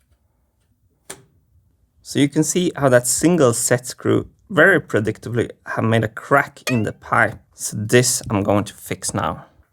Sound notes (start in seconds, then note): 6.7 boing